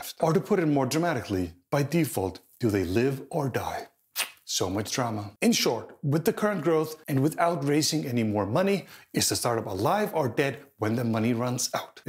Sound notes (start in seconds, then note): 4.1 sucks teeth